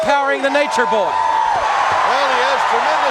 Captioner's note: crowd cheering